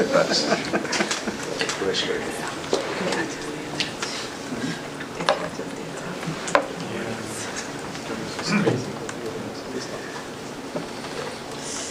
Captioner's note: murmured discussion